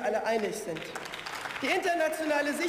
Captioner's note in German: Beifall